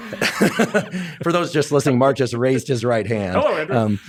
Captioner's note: both laugh